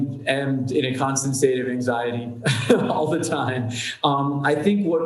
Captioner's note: chuckles